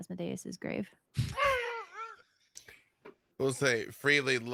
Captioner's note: laughs